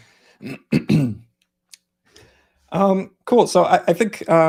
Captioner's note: clearing throat